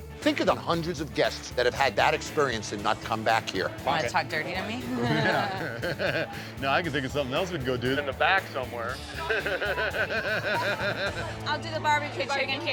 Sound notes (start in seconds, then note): 4.8 laughs; 9.0 laughs